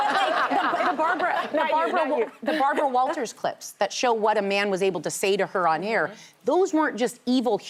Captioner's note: laughter